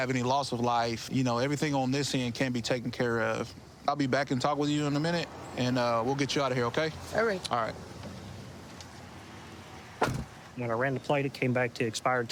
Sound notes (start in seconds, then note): none